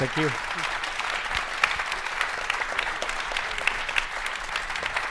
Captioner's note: audience applauds